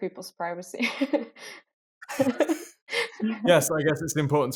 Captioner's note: chuckling